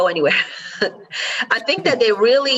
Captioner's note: laughs